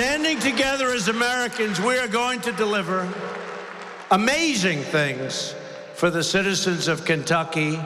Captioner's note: applause